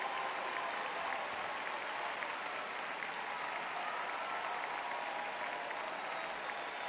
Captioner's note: applauding